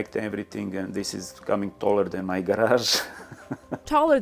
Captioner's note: laughs